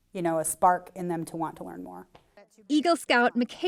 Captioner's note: voiceover